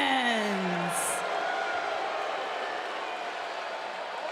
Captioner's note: fans clamoring